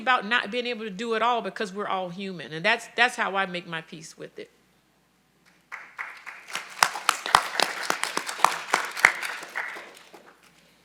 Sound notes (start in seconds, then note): 5.6 audience applauding